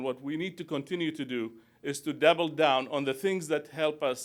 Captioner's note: none